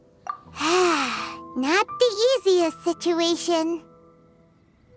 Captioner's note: sigh